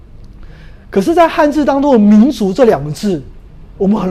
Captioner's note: chinese words